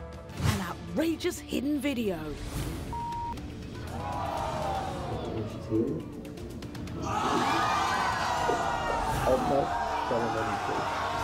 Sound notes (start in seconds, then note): 2.9 beeping; 3.8 audience gasping